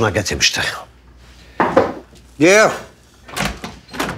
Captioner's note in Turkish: kapı vurulur